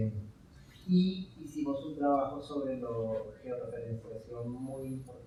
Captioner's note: speaking in Spanish